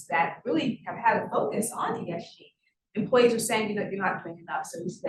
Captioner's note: sound distorted